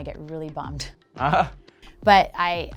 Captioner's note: chuckles